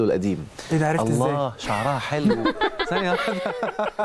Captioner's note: laugh!